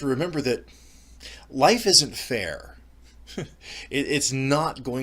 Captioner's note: laughs